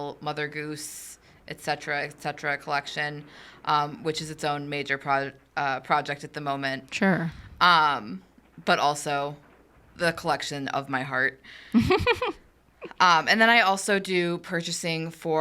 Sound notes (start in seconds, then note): 11.7 laughs